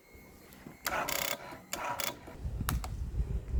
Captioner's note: clicking sound